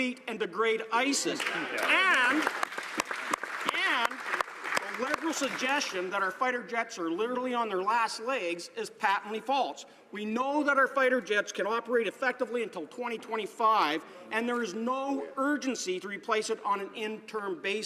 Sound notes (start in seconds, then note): 5.9 some Applause